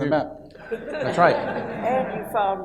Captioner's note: audience laughs